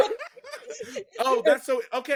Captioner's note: all laughing